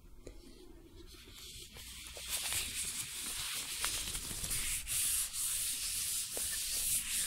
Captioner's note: glove sounds